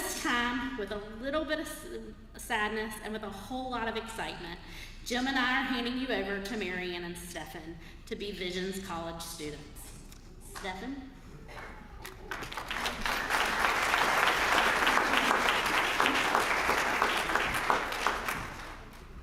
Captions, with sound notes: At this time, with a little bit of sadness and with a whole lot of excitement, Jim and I are handing you over to Marian and Stephen to be Visions College students. Stephen? >> [APPLAUSE] >> [APPLAUSE]